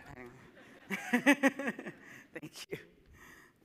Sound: audience laughing

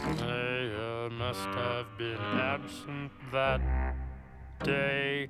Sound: none

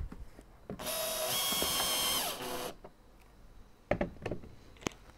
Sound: electric drilling noise

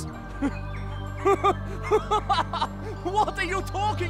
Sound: laughs

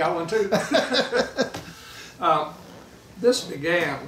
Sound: laughing

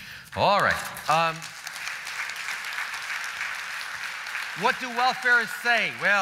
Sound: applause

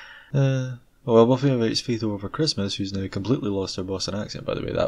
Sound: sigh

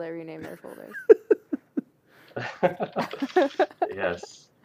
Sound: laughter

